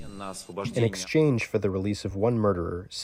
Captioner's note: through translator